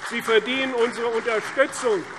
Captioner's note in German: Beifall CDU und BÜNDNIS 90/DIE GRÜNEN